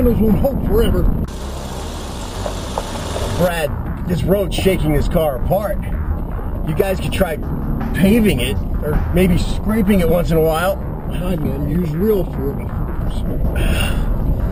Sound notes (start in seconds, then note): 1.2 car on gravel